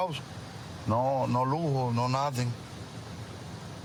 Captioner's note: speaking spanish